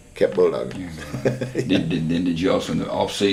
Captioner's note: laughter